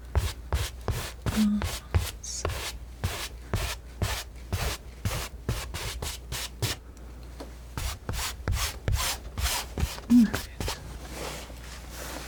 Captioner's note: scratching